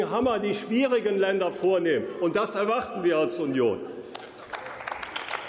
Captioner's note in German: Beifall